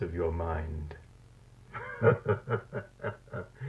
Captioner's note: laughs